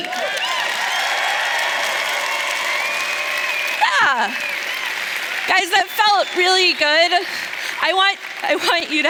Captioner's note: cheers